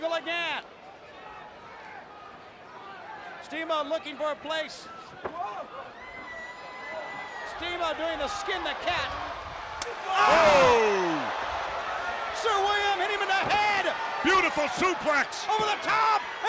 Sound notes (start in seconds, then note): 10.7 crowd chatter